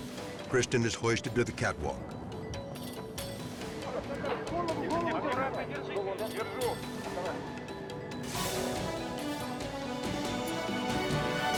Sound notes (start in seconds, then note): 3.7 group speaking in foreign language; 8.5 tense music